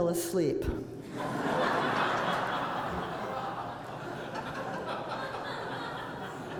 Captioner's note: laughter